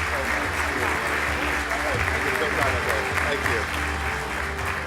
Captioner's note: audience applauding